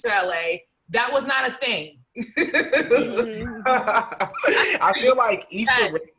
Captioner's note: laughs